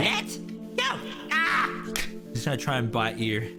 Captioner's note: teeth snap